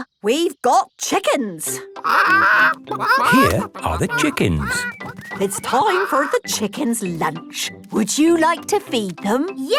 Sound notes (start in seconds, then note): 2.0 clucking